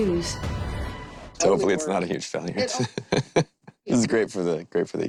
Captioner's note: laughs